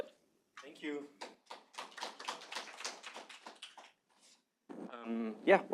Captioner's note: applause